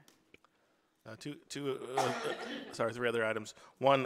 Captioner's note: someone coughs